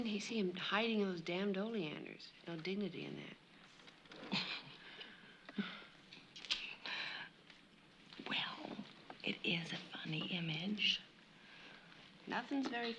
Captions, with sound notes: I just can't see him hiding in those damned oleanders. There's no dignity in that. [ Chuckles ] Well, it is a funny image.